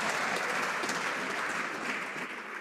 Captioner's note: some Applause